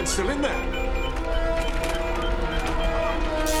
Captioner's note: beeping